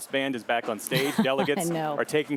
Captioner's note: laughter